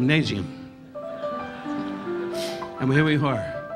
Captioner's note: audience laughing